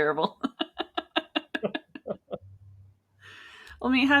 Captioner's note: laughing